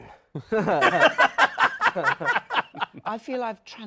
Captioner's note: laughter